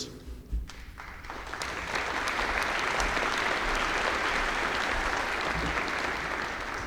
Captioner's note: applause